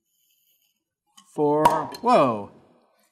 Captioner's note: cork pops